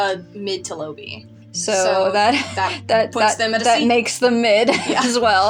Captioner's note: chuckle; laughing